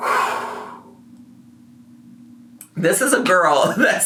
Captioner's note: exhales exasperatedly